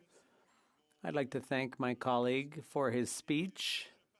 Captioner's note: speaking French